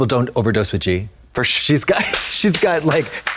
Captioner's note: Trixie claps